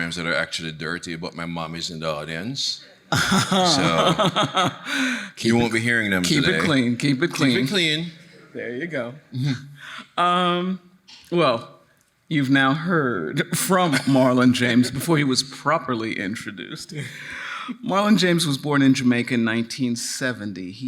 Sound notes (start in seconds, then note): 3.1 laughing